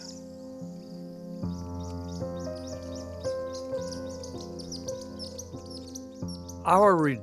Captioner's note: birds chirping